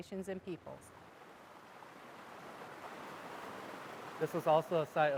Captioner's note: river babbling